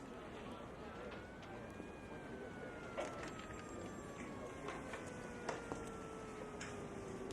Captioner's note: distant siren wails; people chatter